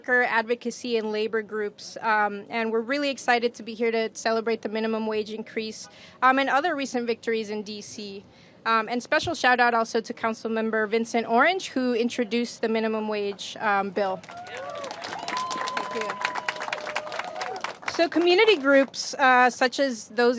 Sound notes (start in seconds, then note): 14.2 applause